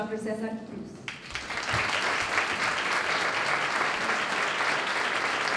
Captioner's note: applause